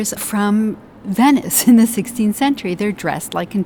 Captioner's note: chuckles